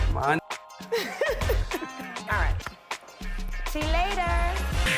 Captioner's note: everyone laughs